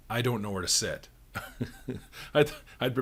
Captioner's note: chuckles